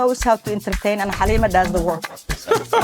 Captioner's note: laughs